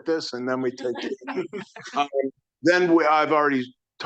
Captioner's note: audience laughing